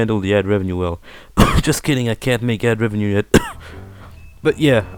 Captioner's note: cough